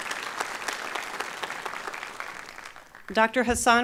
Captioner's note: applause